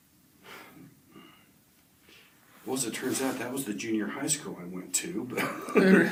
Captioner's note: laughs